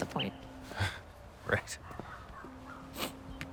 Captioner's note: laughs softly